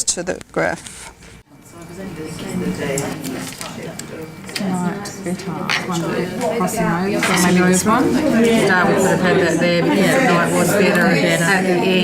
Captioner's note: audience chatter